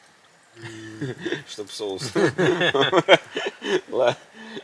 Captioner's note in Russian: смех